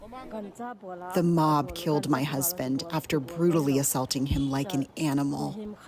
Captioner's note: through translator